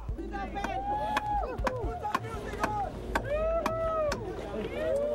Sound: cheering

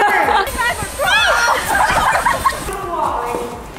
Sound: mom laughing; kids talking excitedly; kids talking in background

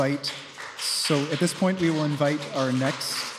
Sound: applause

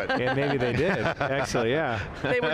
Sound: panelists laughing

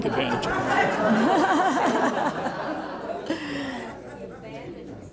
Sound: audience laughing

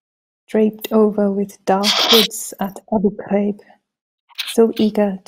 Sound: speaks foreign language

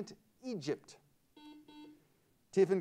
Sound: buzzer sounds

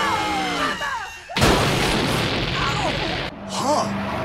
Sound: all screaming; explosion

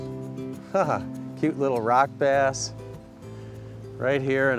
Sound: chuckle

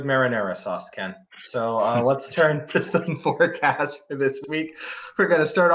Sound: laughs

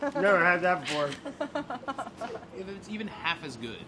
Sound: laughing

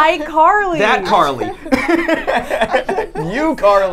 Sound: laughs

